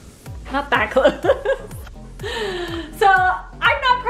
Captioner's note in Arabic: يضحك